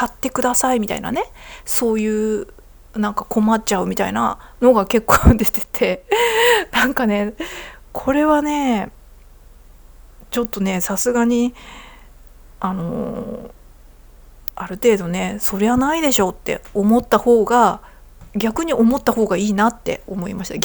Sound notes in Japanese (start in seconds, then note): 6.0 笑い